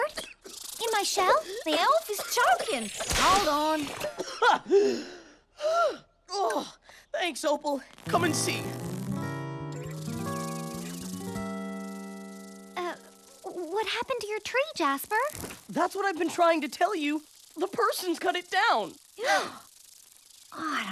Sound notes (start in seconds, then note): 2.1 coughing; 5.3 spitting; 6.3 gasping; 19.2 gasping